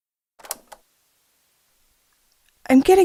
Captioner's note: cassette noise